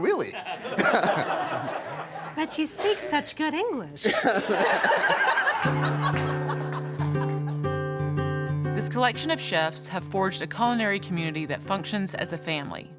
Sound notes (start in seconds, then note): 0.2 group laughing; 5.5 calm guitar music